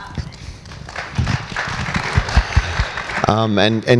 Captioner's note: audience applauds